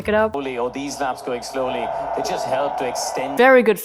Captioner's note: audience cheers over commentary